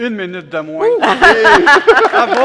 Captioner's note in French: rires